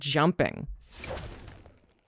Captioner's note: thudding